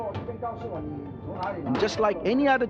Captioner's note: speaks in foreign language